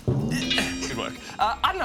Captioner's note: clang!